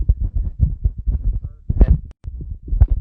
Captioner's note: recording fades voice